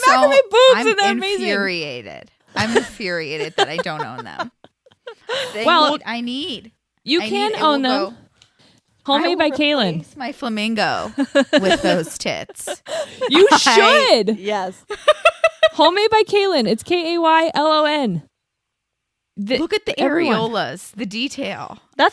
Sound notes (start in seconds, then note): 4.7 laughs; 10.9 laughs